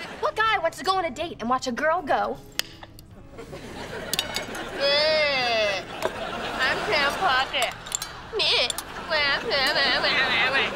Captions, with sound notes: What guy wants to go on a date and watch a girl go... [groaning] I'm Sam Puckett. [groaning]